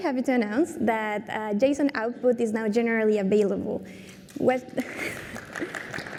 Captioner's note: applause